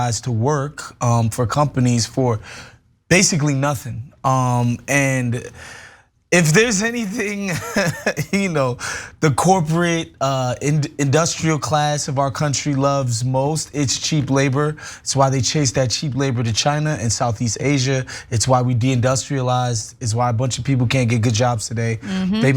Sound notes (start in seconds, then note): 7.1 laugh